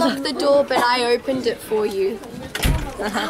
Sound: cough

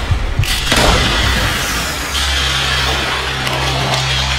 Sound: gun shot firing

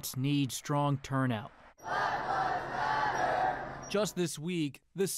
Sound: chanting

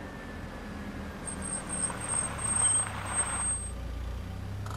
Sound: brakes squeak

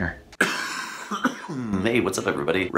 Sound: coughing

